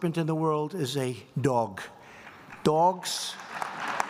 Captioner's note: applause